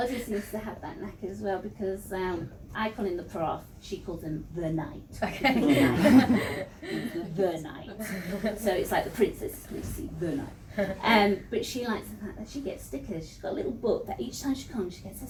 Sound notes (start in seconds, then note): 5.2 laughter